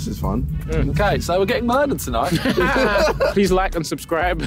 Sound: laughing

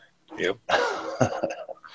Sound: chuckles

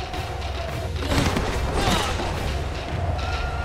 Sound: grunting

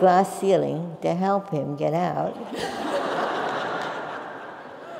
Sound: laugh

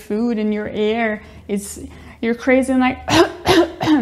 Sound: coughs

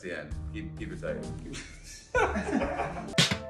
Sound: laugh

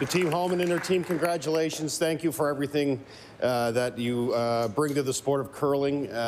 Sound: applause

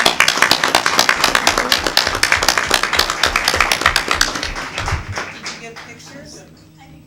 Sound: applause

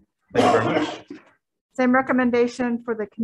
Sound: coughing drowns out speaker

